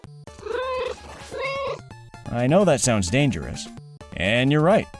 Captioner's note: meow, meow